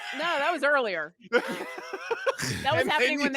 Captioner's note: laughs